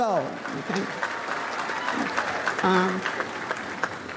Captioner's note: audience applauds